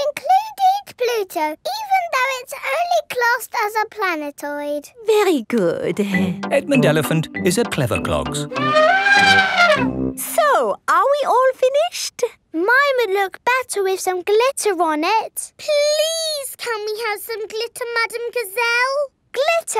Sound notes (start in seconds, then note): 8.5 trumpeting